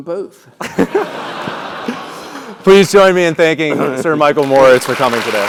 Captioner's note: laugh